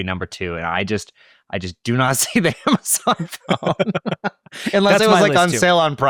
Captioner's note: laughs